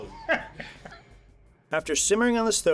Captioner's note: laughter